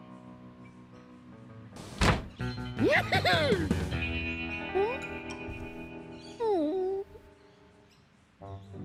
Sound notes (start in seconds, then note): 2.8 giggles; 6.4 whimpers